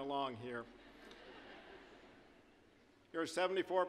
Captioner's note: audience laughing